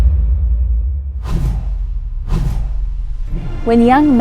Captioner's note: video whooshes